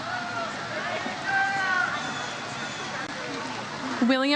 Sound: audience cheers

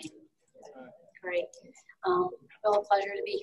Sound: audience murmuring

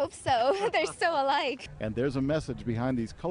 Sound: laughter

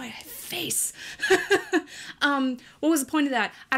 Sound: laughs

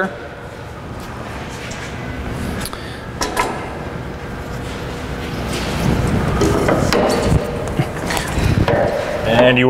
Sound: sound of machines running in the background

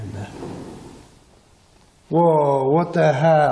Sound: knocks

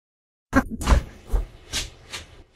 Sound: chuckling

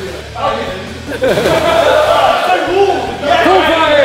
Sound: water splashes

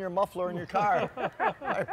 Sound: laughter

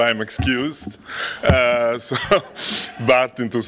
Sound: laughter

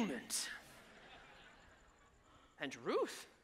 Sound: audience laughs

